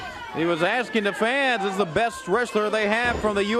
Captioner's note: crowd chatter